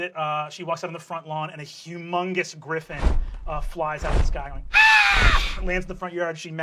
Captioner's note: screech